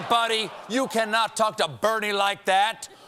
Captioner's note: laughter